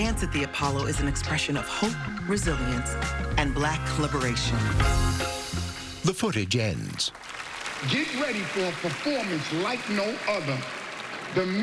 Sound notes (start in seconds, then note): 6.2 applause